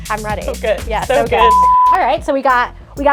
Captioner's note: beep